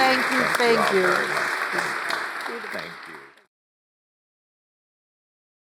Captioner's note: audience applauds